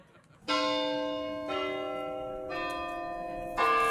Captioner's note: bells tolling